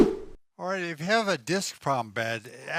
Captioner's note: air whooshing